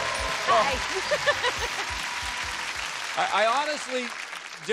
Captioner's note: applause and cheers; theme music playing; chuckles